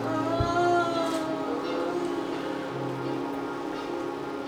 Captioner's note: moaning softly